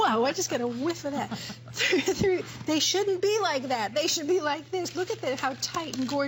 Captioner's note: laughter